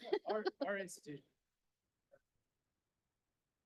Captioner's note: laughing